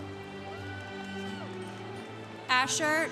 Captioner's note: congregation cheering